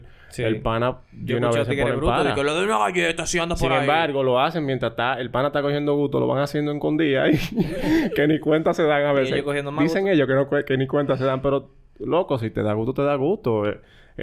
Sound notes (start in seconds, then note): 7.3 laughs